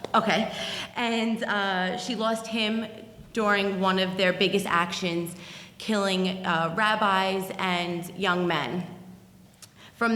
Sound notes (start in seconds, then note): none